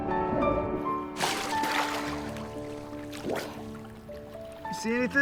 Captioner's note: water splashing